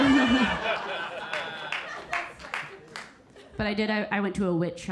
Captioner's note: audience laughing